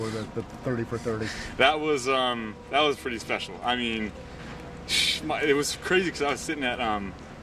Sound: chuckles

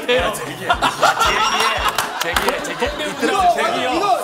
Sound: A burst of laughter

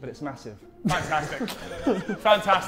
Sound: Sidemen laughing

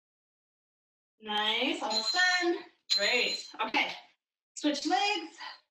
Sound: alarm blares

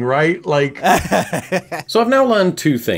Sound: laughing

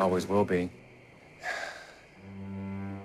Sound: sighs

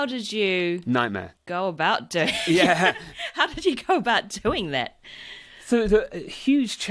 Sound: laughs

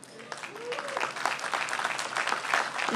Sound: applause

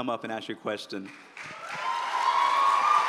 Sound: applause

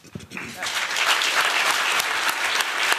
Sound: applause

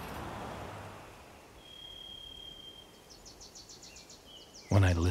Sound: insects and birds chirping

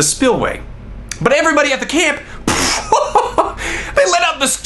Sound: laughs

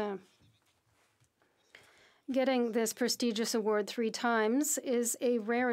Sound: speaking French

